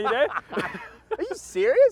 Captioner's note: laughs